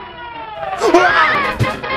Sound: screams; fast-paced music

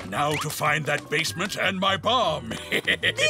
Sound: laughing

